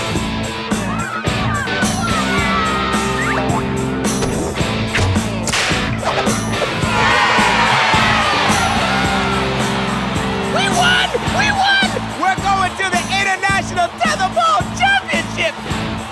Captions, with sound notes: (CHEERING) (THWACK) (THWACK) (SNAP) (CHEERING) WE WON! WE WON! WE'RE GOING TO THE INTERNATIONAL TETHERBALL CHAMPIONSHIPS!